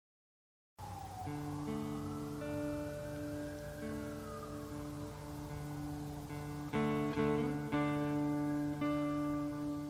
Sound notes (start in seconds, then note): 0.8 ambulance siren; 1.2 calming guitar music